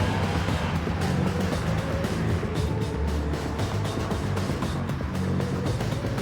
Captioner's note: energetic music; vehicle revving